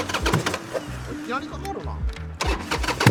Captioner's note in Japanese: エンジン